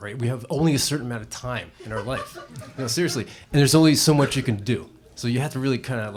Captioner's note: laughter